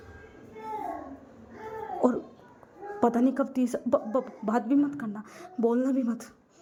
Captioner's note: crying